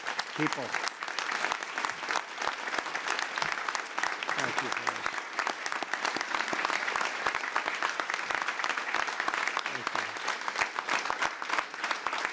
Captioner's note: applause